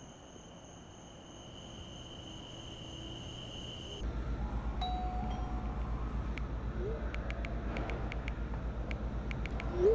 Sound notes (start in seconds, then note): 4.8 doorbell chimes; 7.0 texting noises